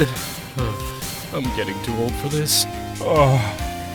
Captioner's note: sigh